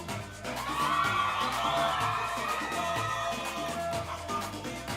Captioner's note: audience cheering